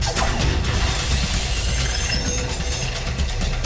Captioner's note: air hissing; alien screeching